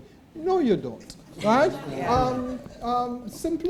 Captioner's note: laughter